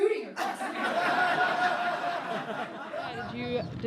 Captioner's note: laughing